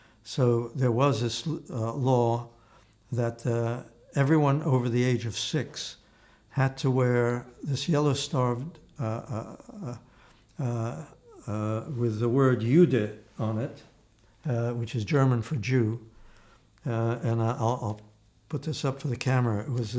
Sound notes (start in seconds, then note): 11.7 german